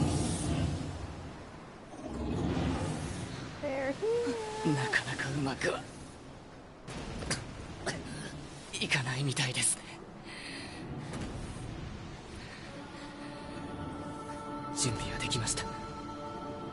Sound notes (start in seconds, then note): 0.0 machines continue to chant "Kill... Kill... Kill..."; 7.1 coughs